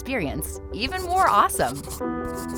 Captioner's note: pencil scratching; gentle music